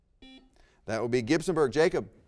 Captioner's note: buzzer rings